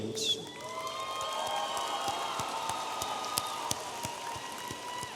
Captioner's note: audience applauding